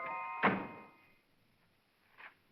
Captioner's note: whimsical music; car door closes